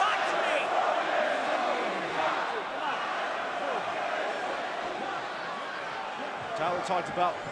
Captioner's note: crowd cheering